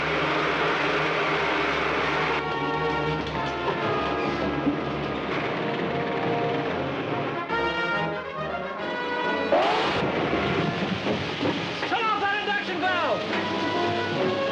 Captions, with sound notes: (vehicle rumbling) (weapon fires) Signal that induction valve!